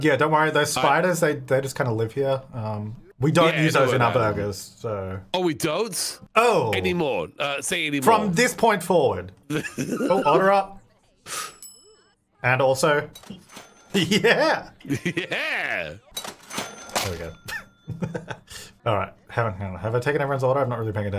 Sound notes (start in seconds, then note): 9.5 laughing; 11.5 bell chiming; 13.2 cash register ching; 16.1 cash register ching